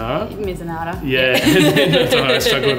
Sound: laughs

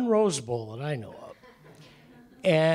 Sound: laughter

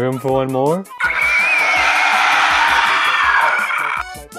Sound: screeching

